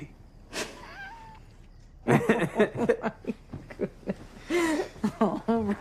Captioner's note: laughing